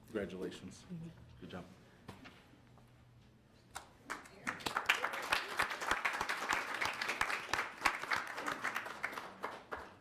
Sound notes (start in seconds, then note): 4.1 audience applauds